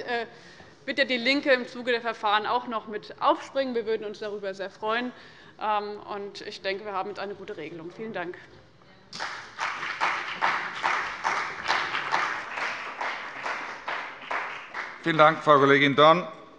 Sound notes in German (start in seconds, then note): 9.1 Beifall bei dem BÜNDNIS 90/DIE GRÜNEN und der CDU